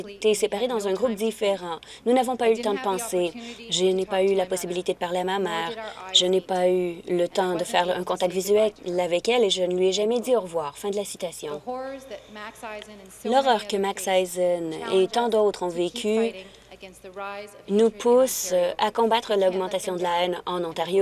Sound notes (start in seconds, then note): none